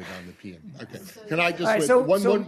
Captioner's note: laughter